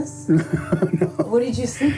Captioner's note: laughs